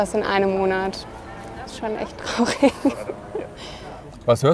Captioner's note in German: lacht